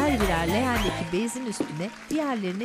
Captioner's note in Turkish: Fonda alkış sesleri